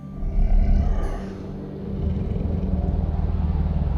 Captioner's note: growling; ominous music